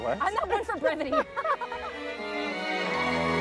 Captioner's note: both laughs; joyful music